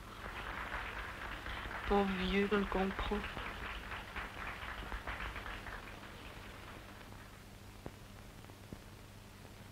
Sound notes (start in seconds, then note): 0.1 applause; 3.7 applause